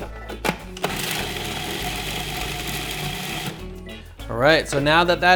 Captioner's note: blender grinds